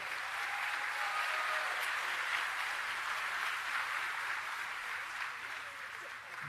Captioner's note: applause